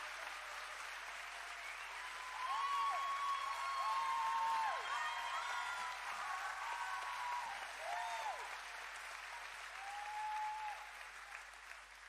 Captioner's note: cheering